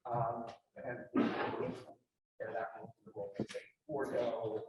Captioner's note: audience member coughing